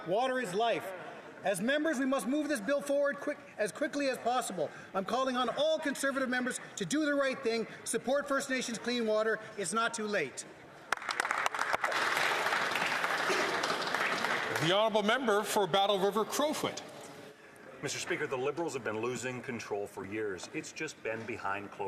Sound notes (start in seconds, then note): 14.6 some Applause